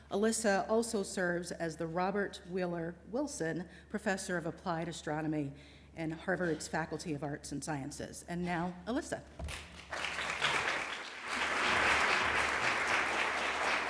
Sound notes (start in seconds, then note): 9.4 applause